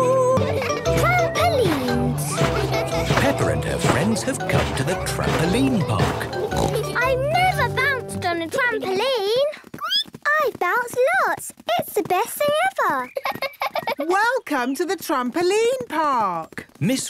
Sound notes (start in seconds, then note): 10.1 squeaks; 13.0 giggles